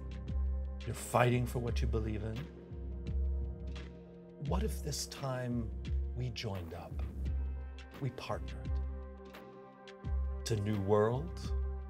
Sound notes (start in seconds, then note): none